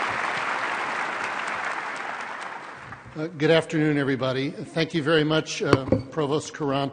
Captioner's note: applause